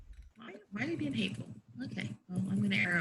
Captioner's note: murmurs